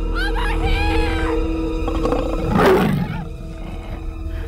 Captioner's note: Roars